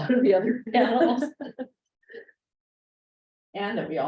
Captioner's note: laughter